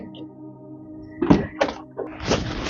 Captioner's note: closes fridge door